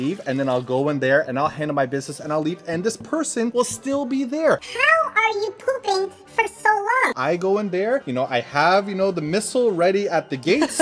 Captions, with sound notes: And then I'll go in there and I'll handle my business and I'll leave, and this person will still be there. (high-pitched voice) How are you pooping for so long? (normal-pitched voice) I go in there, you know, I have, you know, the missile ready at the gates.